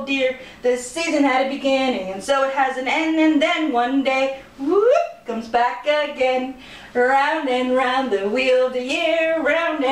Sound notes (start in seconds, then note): 4.5 whoooop!